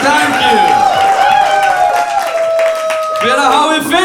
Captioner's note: cheering